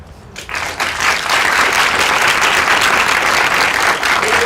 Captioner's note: applause